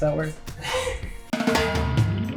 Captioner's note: laughs